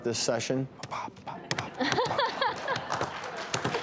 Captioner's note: laughter